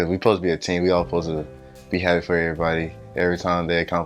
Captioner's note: none